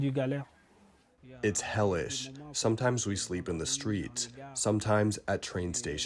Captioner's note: through translator